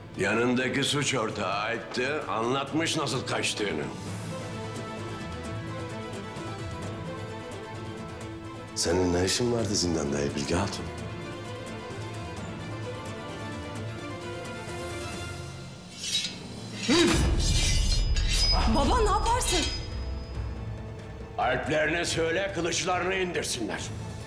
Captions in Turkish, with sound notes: Yanındaki suç ortağı Alp de anlatmış nasıl kaçtığını. Senin ne işin vardı zindanda İlbilge Hatun? (Kılıç çekme sesi) Baba ne yaparsın? Alplerine söyle, kılıçlarını indirsinler.